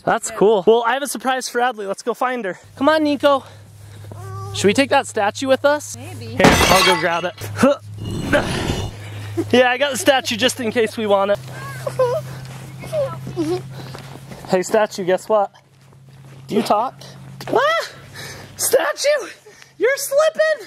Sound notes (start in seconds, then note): 8.0 man grunting; 11.6 giggling; 20.4 man panting